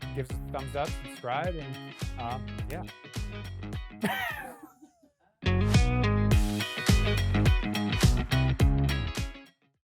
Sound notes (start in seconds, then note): 4.0 laughing loudly